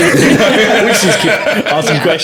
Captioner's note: laughing